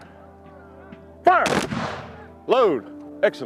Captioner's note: rifles firing